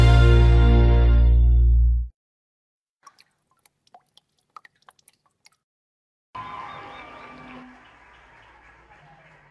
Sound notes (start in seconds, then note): 3.0 raindrops falling on the cascading water; 6.3 audience cheering and applauding